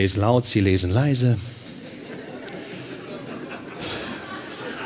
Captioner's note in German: Lachen